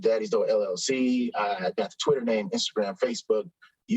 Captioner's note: none